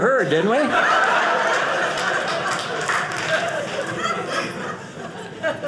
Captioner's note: audience laughing